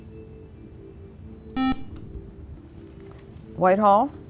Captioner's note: buzzer